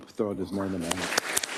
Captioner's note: applause